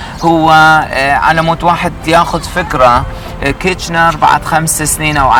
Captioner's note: speaking Arabic